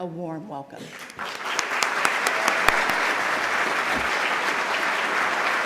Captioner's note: applause